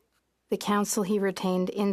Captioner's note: speaking French